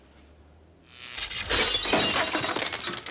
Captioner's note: buzzing